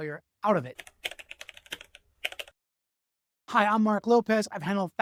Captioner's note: keyboard tapping